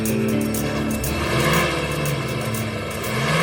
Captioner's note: engine revving